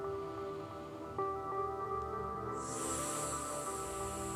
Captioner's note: inhales